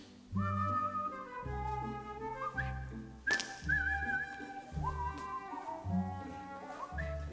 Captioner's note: Frank whistles